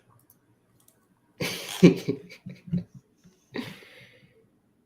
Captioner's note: laughter